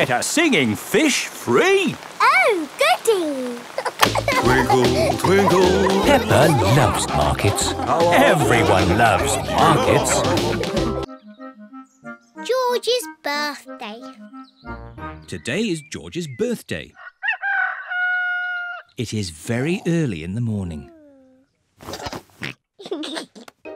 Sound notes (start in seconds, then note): 3.6 giggling; 17.0 roster crows; 21.9 oinks and giggles